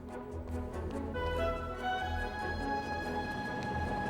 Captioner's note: traffic Passing